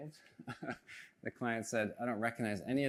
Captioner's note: chuckles